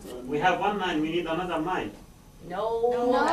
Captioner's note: voiceover